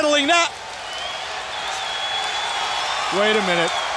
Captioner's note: crowd cheering